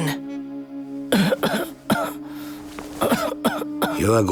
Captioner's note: coughing